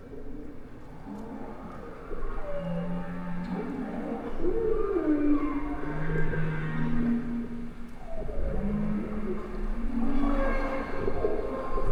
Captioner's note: whale songs